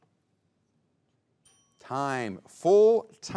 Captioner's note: bell dings